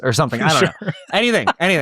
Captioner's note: laughs